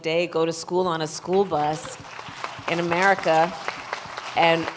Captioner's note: applause